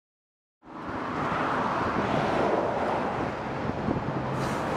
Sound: traffic whizzing

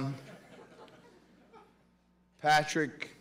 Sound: laughter

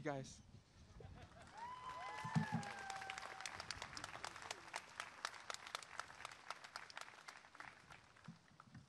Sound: applause and cheering

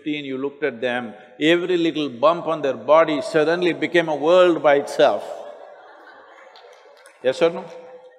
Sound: laughter

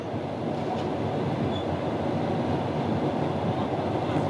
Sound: train rumbling

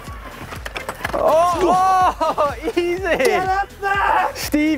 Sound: excited noises

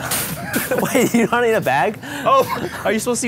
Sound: laughs

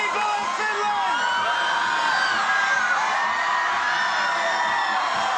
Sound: crowd cheering

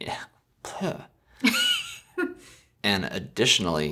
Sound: laughs

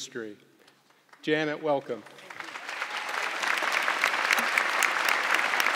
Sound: audience clapping

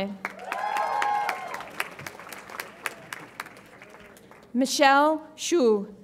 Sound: audience applauds and cheers

